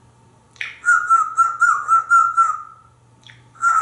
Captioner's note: whistling; more whistling